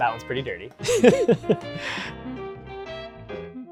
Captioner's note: laughing